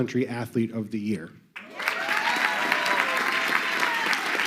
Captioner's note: crowd clapping